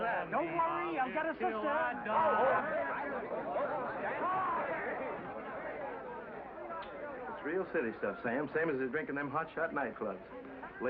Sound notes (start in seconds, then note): 2.6 excited chatter